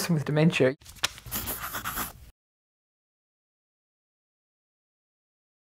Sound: pencil scratching

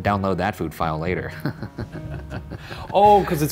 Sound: chuckling

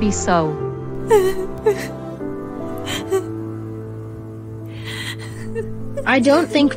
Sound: crying

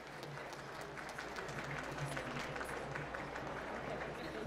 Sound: applause

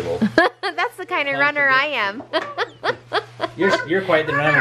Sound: laughs

